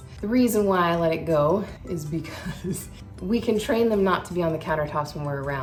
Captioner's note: laughing